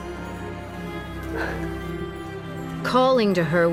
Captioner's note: annaline exhaling